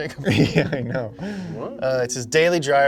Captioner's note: chuckles